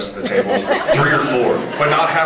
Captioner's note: scattered laughs